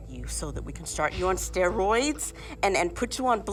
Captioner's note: scoffs